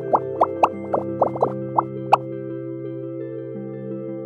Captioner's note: bubbles popping